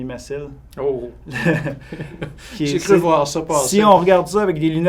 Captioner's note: laughing